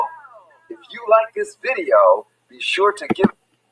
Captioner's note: voiceover